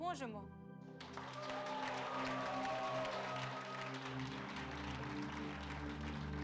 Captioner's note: applause